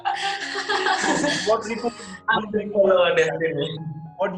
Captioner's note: both laugh